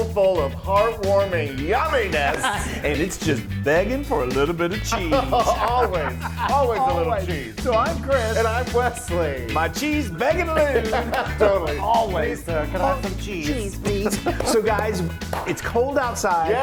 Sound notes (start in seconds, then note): 4.6 both laugh; 9.4 laughs